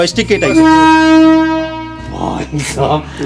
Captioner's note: horn blows